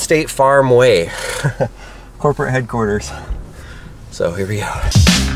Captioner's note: laughs